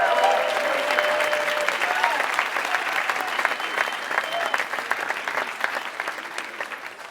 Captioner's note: applause